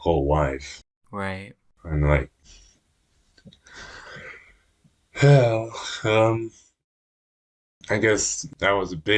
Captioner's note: deep breath